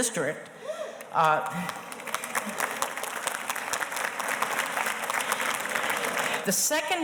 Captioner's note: audience applauding